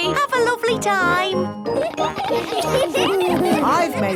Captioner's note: laughter